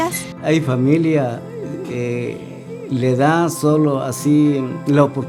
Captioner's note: speaking in foreign language